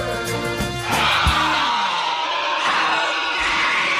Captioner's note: vřískot